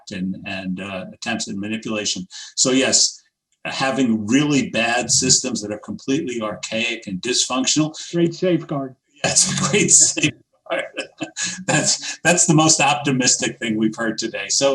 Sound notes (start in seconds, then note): 10.7 laughs